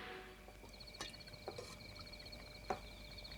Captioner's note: crickets chirping